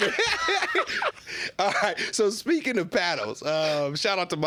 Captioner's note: laughing